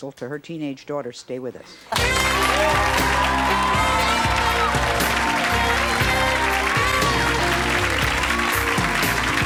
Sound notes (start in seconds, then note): 1.9 audience applause; 2.0 jazzy music